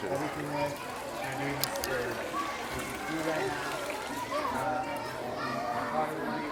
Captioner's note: crowd chatting in foreign language